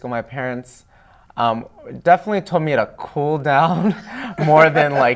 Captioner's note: laughing